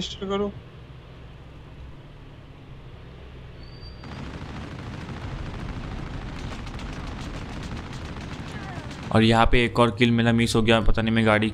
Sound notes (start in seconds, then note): 0.1 Engine's sound; 4.0 Firing shots